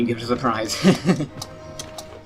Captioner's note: laughs